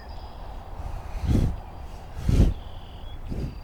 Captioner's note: sniffs air